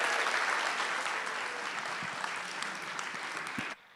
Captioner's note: audience cheering